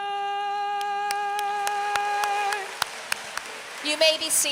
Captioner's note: applause